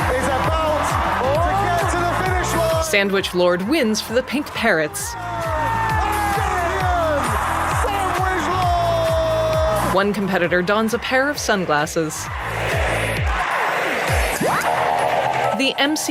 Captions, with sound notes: He's about to get to the finish line! Here we go! Good run, SandwichLord! [Crowd chanting]